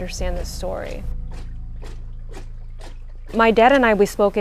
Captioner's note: water sloshes